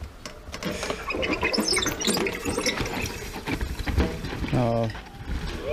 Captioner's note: bicycle squeaking